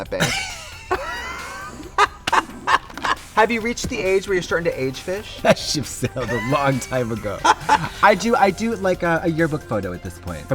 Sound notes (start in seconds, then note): 0.2 both laugh; 7.4 Trixie laughs